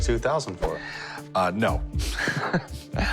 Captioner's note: chuckles